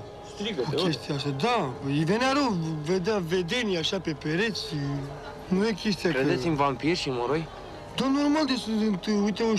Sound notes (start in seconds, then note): 6.2 man speaks Romanian; 8.0 speaking Romanian